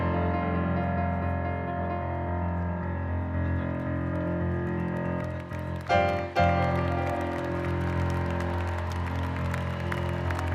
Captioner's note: applause